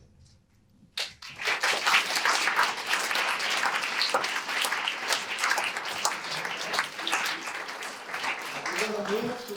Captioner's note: audience applause